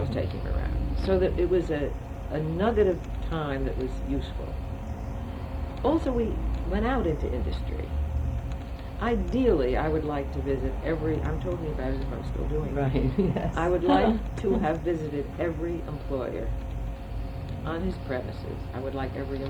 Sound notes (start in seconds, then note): 12.8 laughs